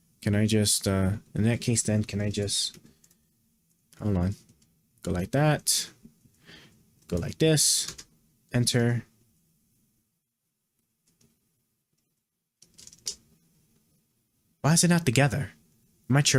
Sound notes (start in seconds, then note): 10.0 keyboard clicking